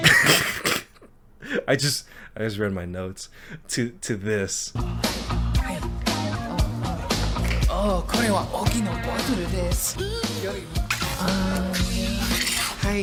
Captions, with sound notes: (laughing) I just read my notes, to this. (upbeat music) (speaking in foreign language) (upbeat music)